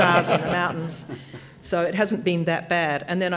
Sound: laughter

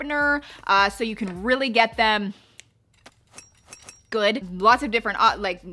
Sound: knives clatter

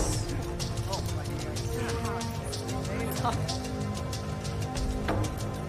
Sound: indistinct chatter

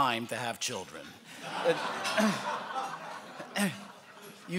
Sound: laughing

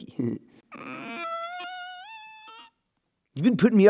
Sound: whimpers

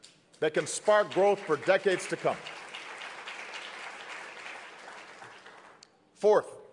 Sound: applause

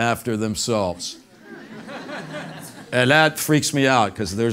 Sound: laugh

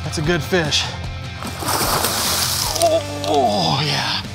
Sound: water splashing

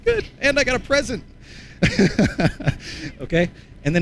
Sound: laughs

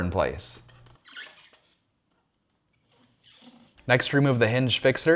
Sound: door squeaking

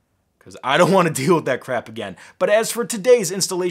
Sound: laughing

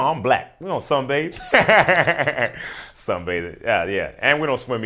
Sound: laughing

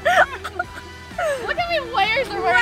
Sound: laughing

